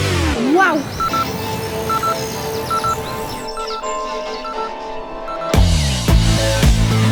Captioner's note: bips